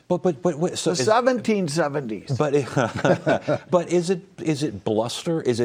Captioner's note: laughs